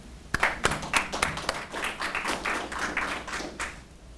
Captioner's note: audience applauds